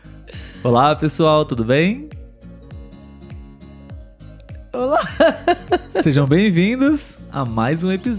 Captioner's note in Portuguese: risos